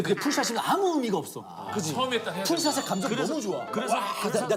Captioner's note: Golden-Globe worthy crying scene